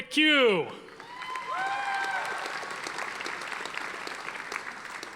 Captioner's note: audience applauding